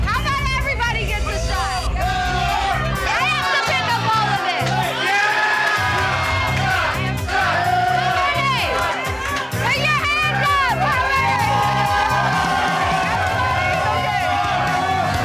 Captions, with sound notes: How 'bout everybody gets a shot? (patrons cheering) I have to pick up all of it. - Yeah! (all cheering) - Shots! Shots! - Shots! Shots! How many? Put your hands up! How many? (patrons cheering)